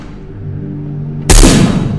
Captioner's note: gunshot